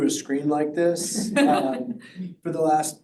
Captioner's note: audience laughs